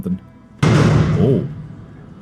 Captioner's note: huge THUMP as queen jumps down